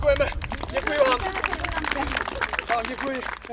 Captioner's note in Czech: potlesk diváků